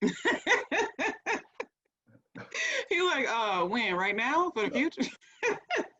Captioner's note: laughing